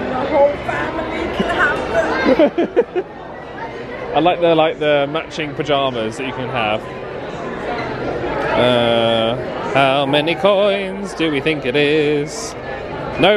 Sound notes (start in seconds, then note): 2.2 laughs